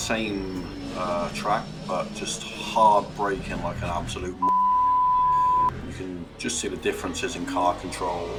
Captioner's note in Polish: bip